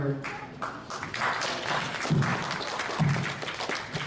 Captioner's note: applause